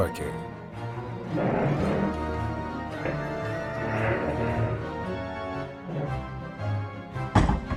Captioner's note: sounds of the cursed brothers dragging furniture into the Haunted Lab